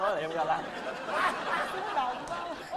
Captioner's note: laughing